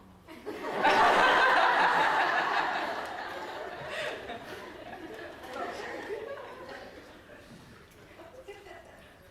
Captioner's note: laughter